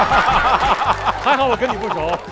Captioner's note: hahaha